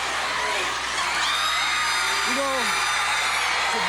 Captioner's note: crowd cheering